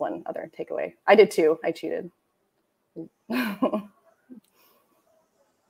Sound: chuckling

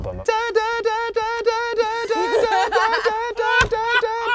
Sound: mimics CD skipping; all laugh

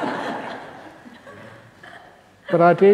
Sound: laughter

